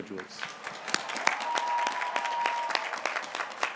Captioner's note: graduates cheering